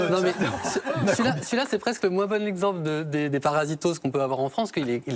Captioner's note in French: rires